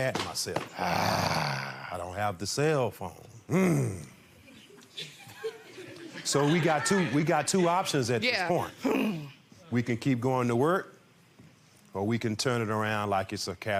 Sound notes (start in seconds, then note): 0.7 grumbles; 4.2 groans; 9.3 mimics groan